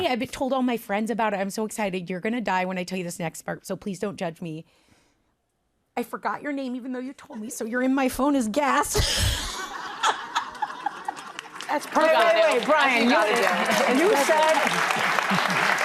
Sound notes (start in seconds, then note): 8.9 laughter